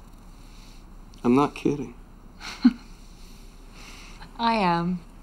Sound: Nancy chuckles

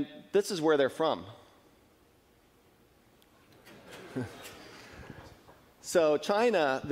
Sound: laughing

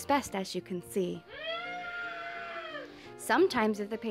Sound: muffled scream

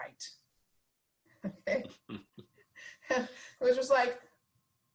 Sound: laughing

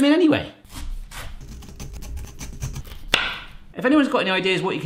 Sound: loud chopping

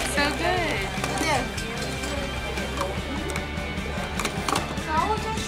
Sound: people chatting indistinctly

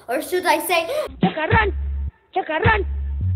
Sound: In Chacarron Dog's voice

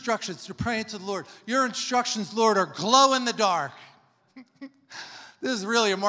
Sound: laughs

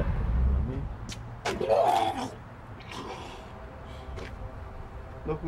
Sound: vomit

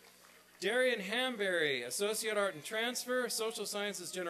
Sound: applause

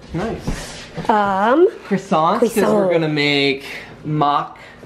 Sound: in french accent

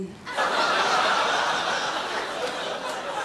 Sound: crowd laughs

